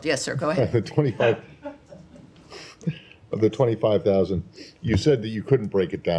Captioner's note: laughter